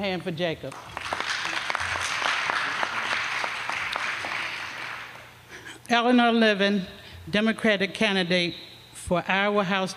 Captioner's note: applause